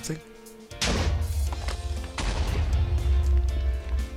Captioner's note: TNT explodes